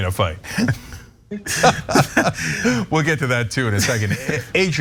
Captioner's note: laugh